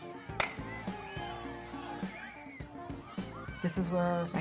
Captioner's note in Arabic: الأطفال يهتفون; صوت قعقعة البيسبول